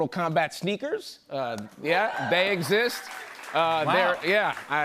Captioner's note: cheers and applause